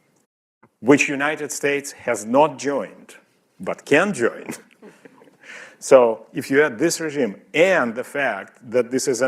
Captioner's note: laughter